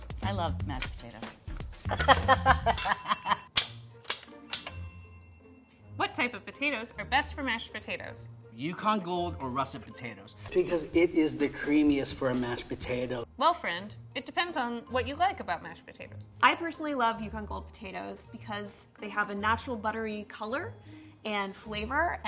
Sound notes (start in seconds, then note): 1.9 laughing; 2.8 bell ding